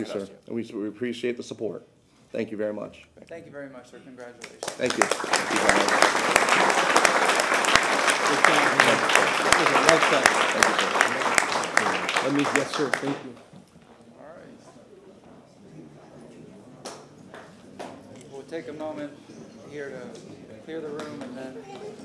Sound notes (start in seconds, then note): 8.2 applause